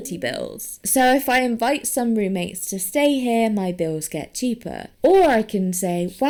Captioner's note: none